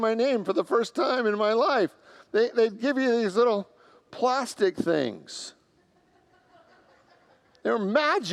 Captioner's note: congregants laugh